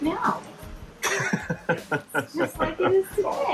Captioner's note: chuckling